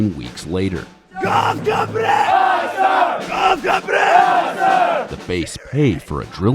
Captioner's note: yelling